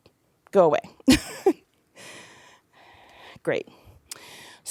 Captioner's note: laugh